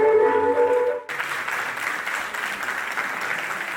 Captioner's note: audience clapping